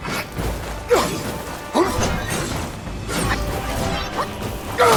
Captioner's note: characters grunting